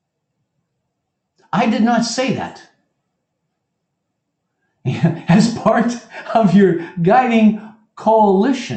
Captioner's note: laugh